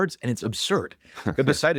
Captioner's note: laughs